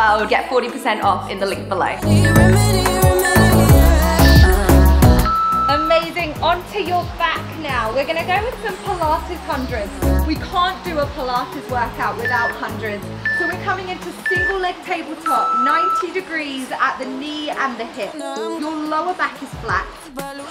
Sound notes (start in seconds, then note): 2.5 timer beeps